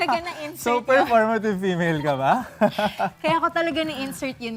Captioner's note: laughs